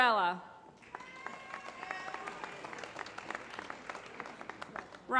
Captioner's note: applause